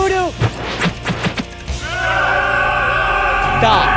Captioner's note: all shouting